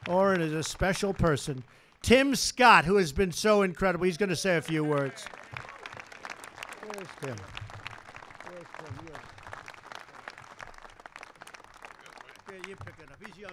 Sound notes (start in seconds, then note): 5.4 applause